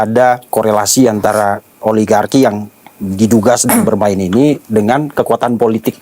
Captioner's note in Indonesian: berdehem